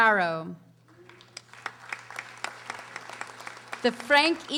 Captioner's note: audience applauding